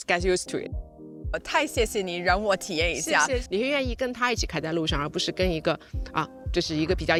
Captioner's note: speaking foreign language